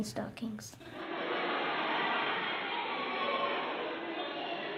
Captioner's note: laughter